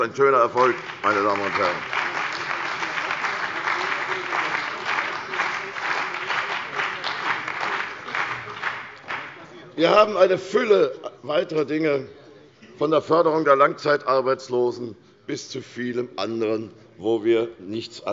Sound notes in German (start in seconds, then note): 8.5 Beifall bei der CDU und dem BÜNDNIS 90/DIE GRÜNEN